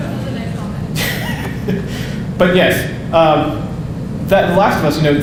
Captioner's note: audience laughing; laughing